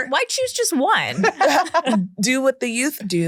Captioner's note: everyone laughs